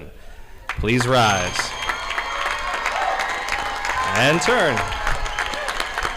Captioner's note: audience applauding